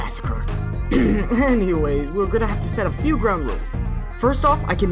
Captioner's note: coughs